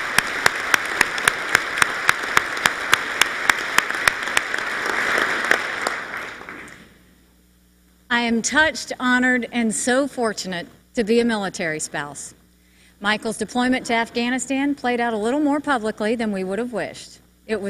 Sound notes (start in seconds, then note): 0.0 applause